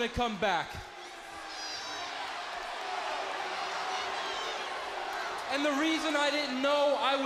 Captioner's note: crowd chatter